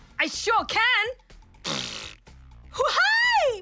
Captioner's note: blows raspberry